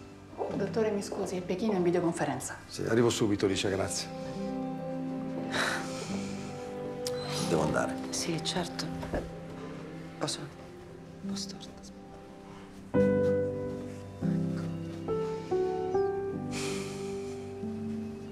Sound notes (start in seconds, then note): 15.5 sigh from anita